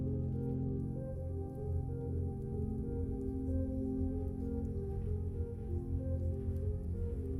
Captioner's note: quiet orchestral music; crackling flames